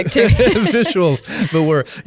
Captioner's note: both laughing